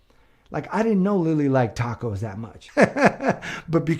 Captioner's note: laughs